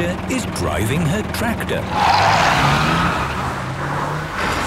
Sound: tires screeching

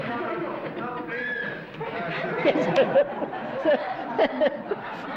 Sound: scream

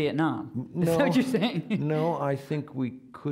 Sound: laughing

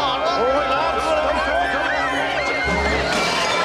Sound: shouting and screaming

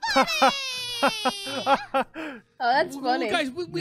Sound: Unicorn laughs

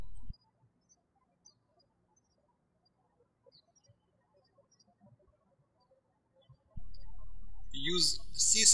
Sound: birds chirping

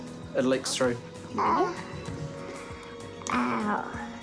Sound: grunts weakly

